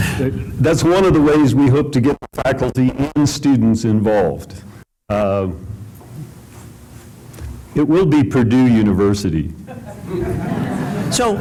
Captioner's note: laughter